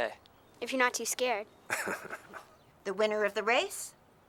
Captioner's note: Heep laughs